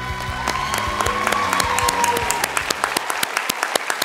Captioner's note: applause